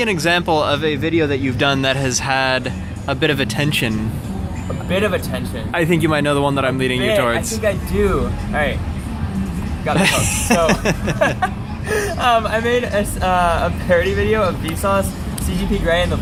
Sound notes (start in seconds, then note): 9.9 laughs